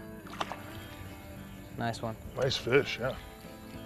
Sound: splash

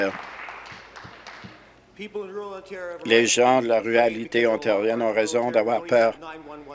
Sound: applause

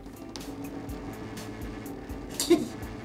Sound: fax machine buzzing

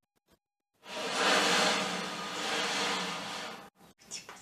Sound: the sound of the movement of the rack on the floor

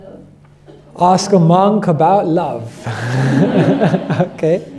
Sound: laughter

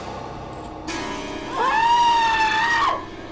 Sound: screams Loudly

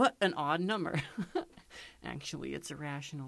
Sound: chuckling

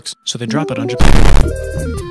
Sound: boom

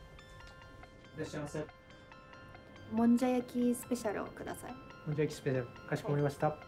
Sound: man speaks japanese; both converse in japanese

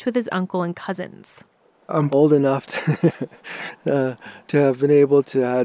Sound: laughter

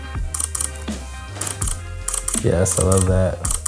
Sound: camera clicks

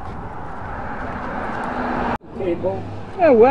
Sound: footsteps; machine sound

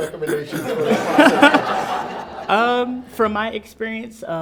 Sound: everyone laughs

